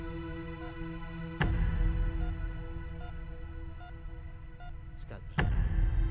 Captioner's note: Beeping sound